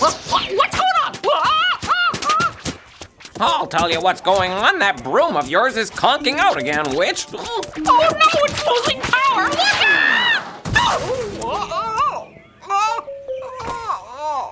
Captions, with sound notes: What's going on? - I'll tell you what's going on. That broom of yours is conking out again, Witch. - Oh no, it's losing power! (yelling) (crashing) (groaning)